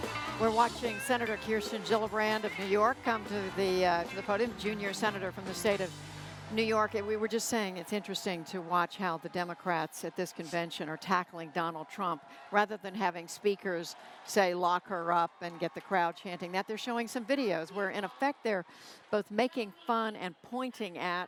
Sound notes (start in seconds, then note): 2.6 applause